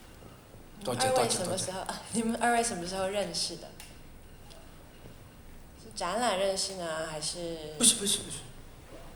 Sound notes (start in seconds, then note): 1.4 Mandarin; 8.0 Cantonese